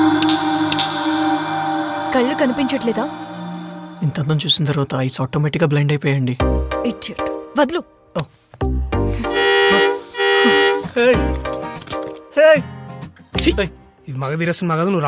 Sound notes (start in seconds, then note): 0.1 snaps finger; 9.2 horn blares